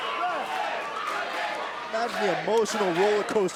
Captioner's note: crowd cheering